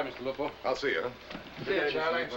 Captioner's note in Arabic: تعليق صوتي